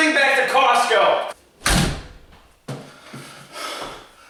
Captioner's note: door slams